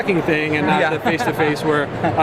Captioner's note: laughter